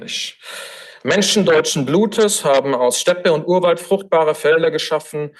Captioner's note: foreign language